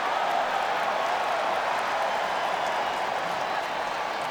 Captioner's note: crowd clamoring